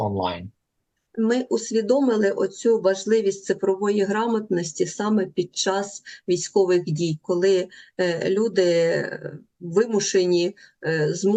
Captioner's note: foreign language